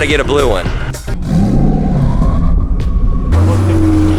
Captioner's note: revving